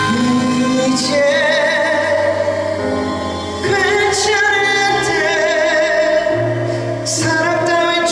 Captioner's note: is conveying the emotion with his voice